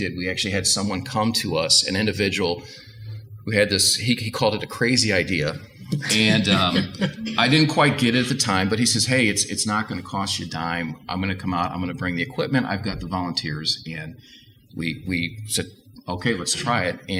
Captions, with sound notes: We actually had someone come to us, an individual who had what he called a crazy idea. (panel laughs) I didn't quite get it at the time, but he says hey it's not going to cost you dime. I'm gonna come out; I'm gonna bring the equipment; I've got the volunteers. And we said, "Okay, let's try it."